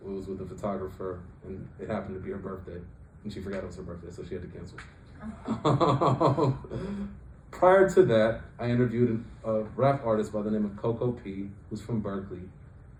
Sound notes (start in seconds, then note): 5.2 laughs